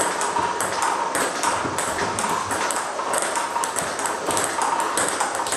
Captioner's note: ball ping pong hitting continues